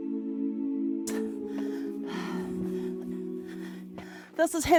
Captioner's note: panting